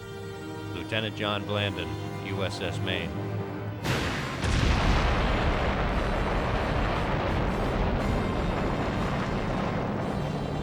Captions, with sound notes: Lieutenant John Blandin, USS Maine. (explosions burst)